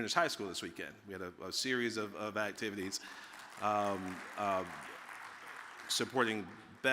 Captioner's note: audience applauding